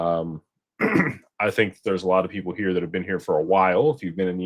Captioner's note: clears throat